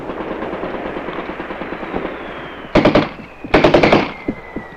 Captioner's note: banging